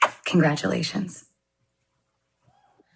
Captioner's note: kiss smacking